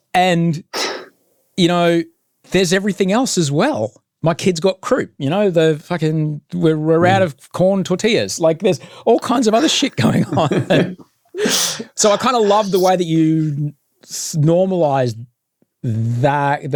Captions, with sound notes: And, you know, there's everything else as well. My kids got crew, you know, the fucking, we're out of corn tortillas. Like there's all kinds of other shit going on. (both laughing) So I kind of love the way that you normalised that,